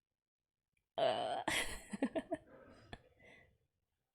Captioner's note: laughs